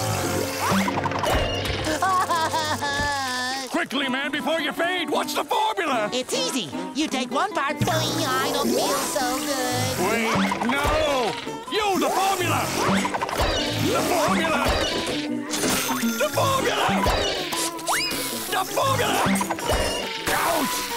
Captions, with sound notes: [crying] Quickly, man, before you fade, what's the formula?! It's easy. You take one part- I don't feel so good. Wait! No! You, the formula! The formula! The formula! The formula! Ouch!